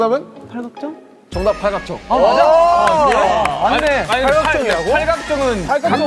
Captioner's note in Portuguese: aplausos